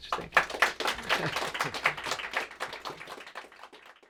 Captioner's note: applause